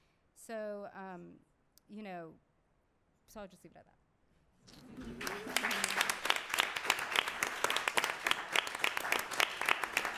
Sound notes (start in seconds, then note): 6.8 applause